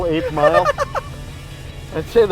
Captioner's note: laughs loudly